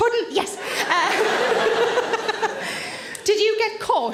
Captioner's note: audience laughs; Sarah laughs